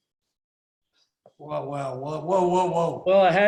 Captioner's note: laughs